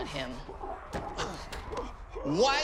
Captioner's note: scoffs